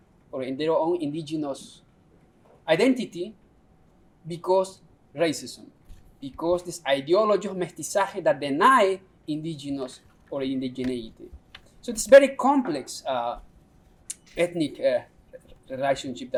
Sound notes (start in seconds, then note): 7.4 non-english speech